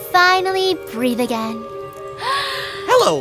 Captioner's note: big inhale